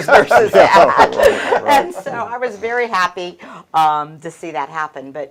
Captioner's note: chuckles